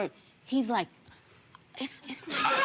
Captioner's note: whispering